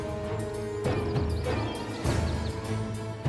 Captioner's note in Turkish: Kuş cıvıltısı sesleri